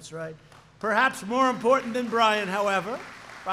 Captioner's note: applause